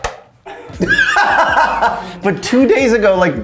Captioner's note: laughs